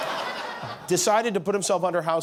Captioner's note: laughter